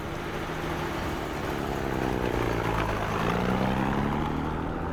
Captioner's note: jeep rumbling